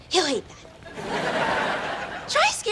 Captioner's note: laughs